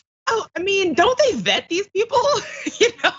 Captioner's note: laugh